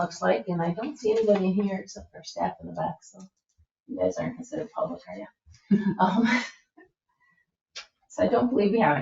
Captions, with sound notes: And I don't see anybody in here except our staff in the back. So you guys aren't considered public, are you? (members chuckle) So I don't believe we have anything